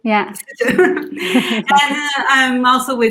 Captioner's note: laughing